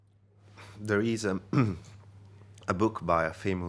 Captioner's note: clears throat